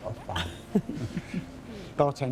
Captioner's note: scoffs